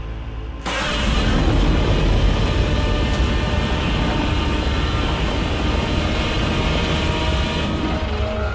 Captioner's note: Godzilla Roars; Muto Roars